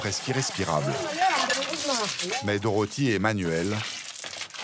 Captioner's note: herero audio spoken